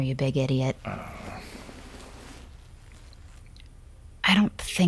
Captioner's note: sounds of hugging